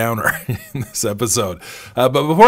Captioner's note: laughs